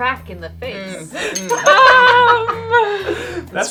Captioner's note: laughing